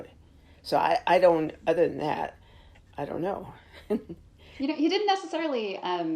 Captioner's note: chuckles